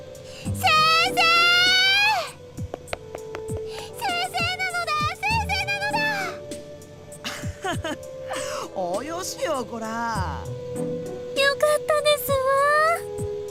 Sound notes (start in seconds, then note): 7.2 laugh